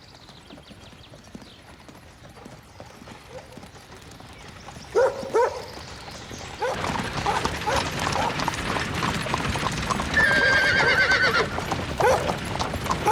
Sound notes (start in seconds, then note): 2.7 dog barking; 9.8 horse neighs